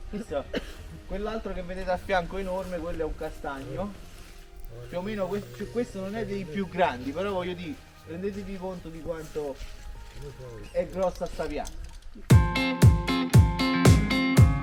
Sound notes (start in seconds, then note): 10.4 speaks a bit in a dialect